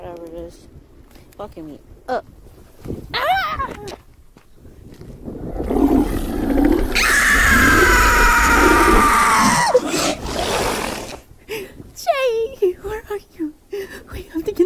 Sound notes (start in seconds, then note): 3.5 Destiny screams; 5.4 growling; 6.2 Destiny shrieks; 13.5 Destiny sobs